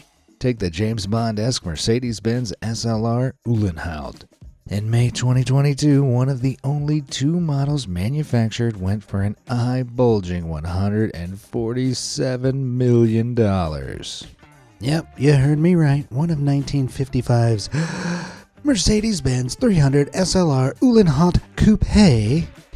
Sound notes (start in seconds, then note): 17.6 breaths deeply